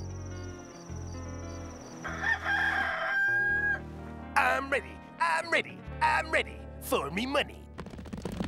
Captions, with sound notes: [rooster crowing] I'm ready! I'm ready! I'm ready... for me money.